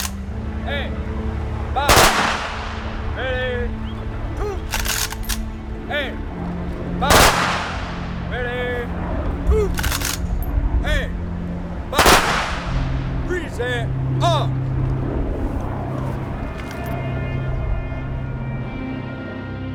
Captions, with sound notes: aim, fire. (gun shots blasting) - Ready, two, aim, fire. (gun shots blasting) Get ready, two, aim, fire. (gun shots blasting) Present arms. (trumpet blowing)